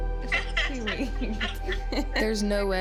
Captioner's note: laughs